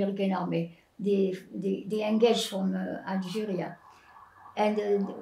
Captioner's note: non-english